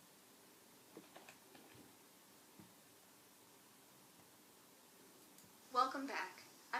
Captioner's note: typing